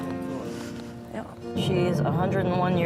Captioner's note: sighs